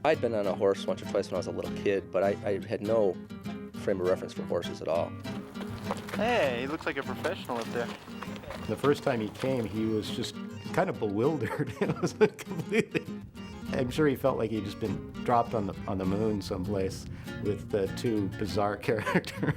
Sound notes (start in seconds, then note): 11.2 laughter